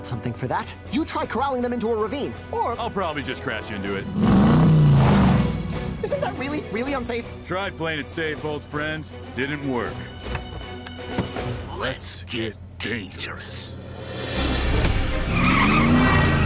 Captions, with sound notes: I think I got something for that. You try corralling them into a ravine, or-- I'll probably just crash into it. [engine revs] Isn't that really, really unsafe? Tried playing it safe, old friend-- didn't work. -Let's get dangerous. -Let's get dangerous.